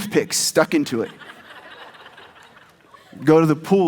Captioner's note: audience laughs